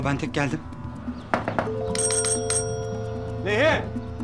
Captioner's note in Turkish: Kapı zilini çalıyor